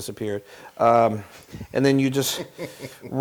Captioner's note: laugh